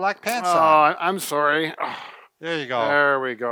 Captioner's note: grumbles